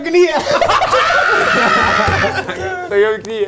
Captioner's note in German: Schreie